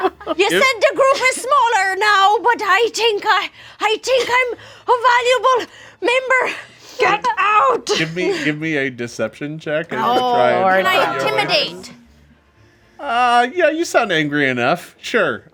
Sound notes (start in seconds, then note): 9.9 group groans